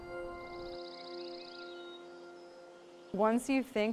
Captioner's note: birds chirping